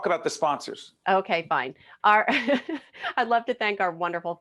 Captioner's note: laughing